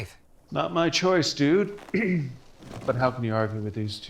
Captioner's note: clears throat